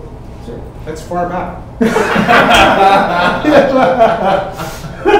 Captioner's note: everyone laugh